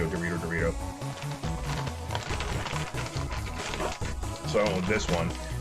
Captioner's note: opening noises